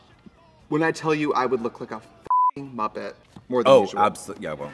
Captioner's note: beep